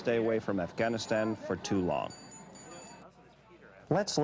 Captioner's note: hand bell chiming